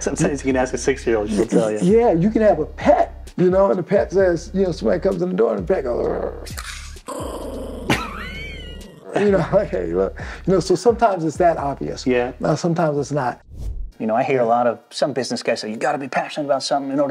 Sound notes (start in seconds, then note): 5.9 low growling; 6.0 growling